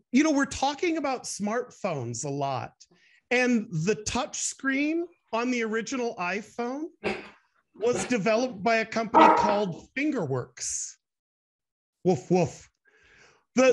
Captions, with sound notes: You know, we're talking about smart phones a lot and the touch screen on the original iPhone was developed by a company called FingerWorks. (Dog barks) Woof, woof. - Yeah.